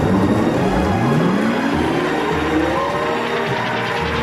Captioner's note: none